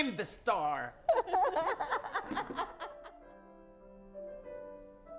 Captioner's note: laughter